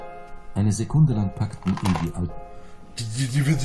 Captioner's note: audio book continues playing